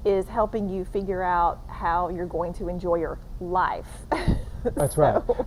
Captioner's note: chuckling